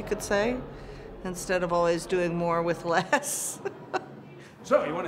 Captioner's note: laughs